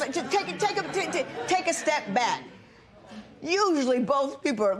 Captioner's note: spectators murmur